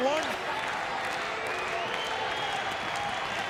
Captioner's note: crowd yelling